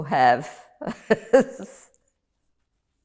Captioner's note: laughing